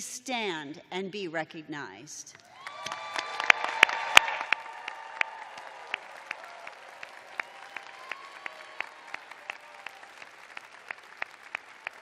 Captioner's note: cheers and applause